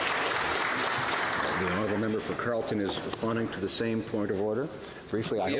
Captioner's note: applause